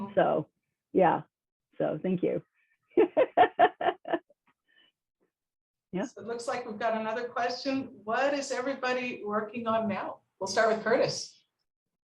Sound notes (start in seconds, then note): 2.9 laughing